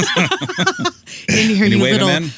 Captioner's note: laughing